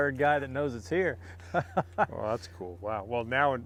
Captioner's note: laughs